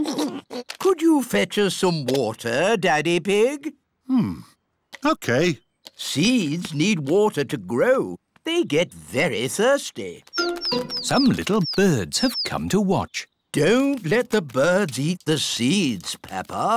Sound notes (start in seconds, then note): 0.0 oinks and giggles; 9.5 tweeting